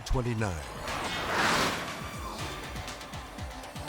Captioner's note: jet whooshing; upbeat music continues